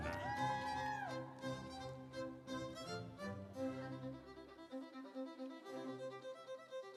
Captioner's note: audience cheering; instrumental music